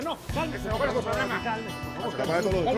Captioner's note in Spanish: Hablan al unísono